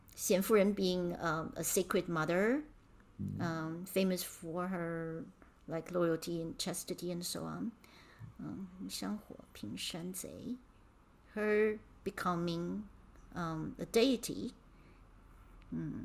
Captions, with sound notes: Xian Furen being a sacred mother, famous for her loyalty and chastity and so on. (speaking in Mandarin) Her becoming a deity.